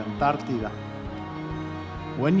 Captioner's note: in English